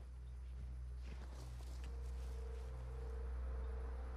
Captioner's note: branches rustling; tense music